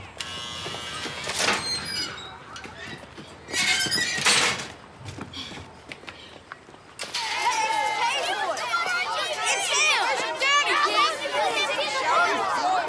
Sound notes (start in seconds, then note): 0.1 gate buzzes; 7.0 children chattering loudly